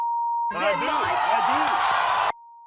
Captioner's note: cheering